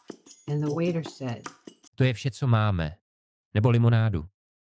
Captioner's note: speaking Czech